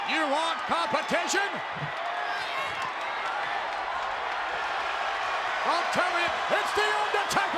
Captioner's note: applause